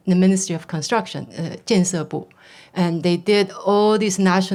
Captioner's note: speaking foreign language